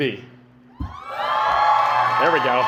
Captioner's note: cheering